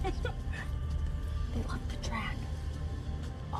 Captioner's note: whispering